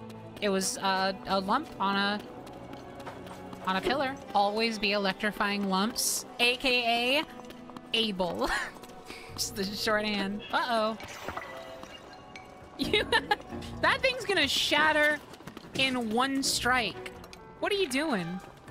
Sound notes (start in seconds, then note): 12.8 laughter